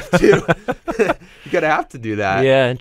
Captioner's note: both chuckle